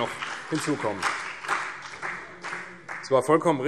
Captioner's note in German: Beifall CDU und BÜNDNIS 90/DIE GRÜNEN